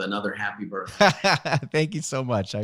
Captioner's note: laughing